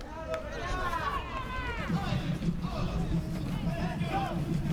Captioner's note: fans yelling